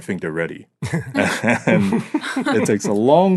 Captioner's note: all laughing